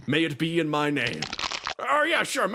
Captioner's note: crack